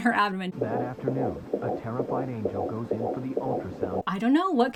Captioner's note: heartbeat pounding